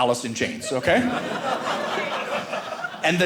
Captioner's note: audience laughing